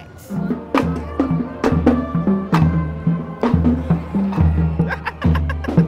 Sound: instrumental music; laughing

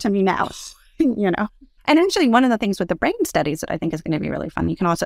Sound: laugh

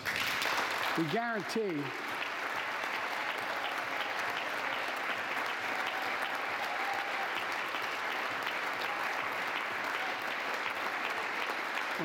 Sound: applause

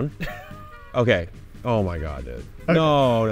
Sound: laughing

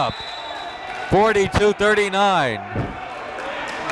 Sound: whistle blows

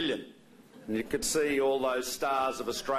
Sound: laughter

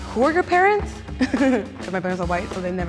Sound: laughs

